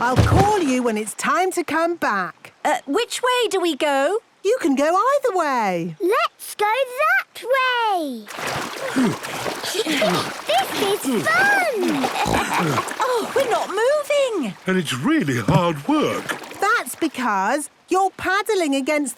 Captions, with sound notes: I'll call you when it's time to come back! - Uh, which way do we go? - You can go either way! - Let's go that way! (panting) This is fun! (snorts, giggles) - Oh, we're not moving! - And it's really hard work! - That's because you're paddling